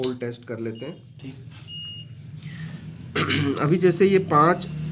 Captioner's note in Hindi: गला साफ़ करने की आवाज़